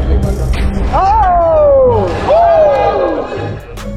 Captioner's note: upbeat music; cheers; dunk sound